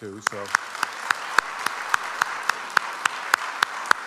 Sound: audience applauds

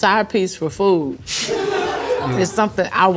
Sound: laughing

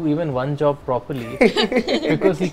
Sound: laughs

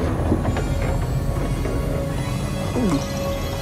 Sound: creaking; whirring intensifies; gulps

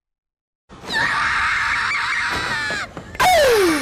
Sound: Kobeni Scream

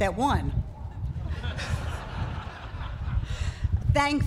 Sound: laughter

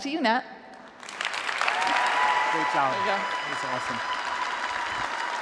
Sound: applause

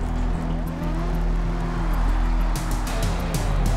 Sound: engines revving; upbeat rock music

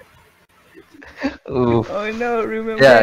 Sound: inhale

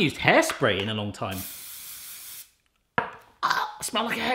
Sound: spraying; gags

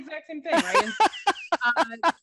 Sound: laughter

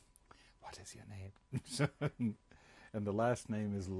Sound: laughs

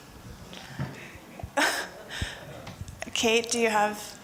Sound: laughs

